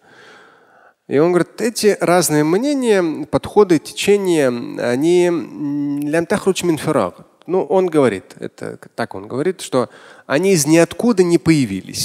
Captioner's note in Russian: говорит на арабском